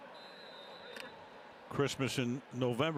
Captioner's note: whistle